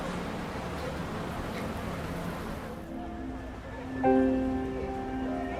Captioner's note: street noise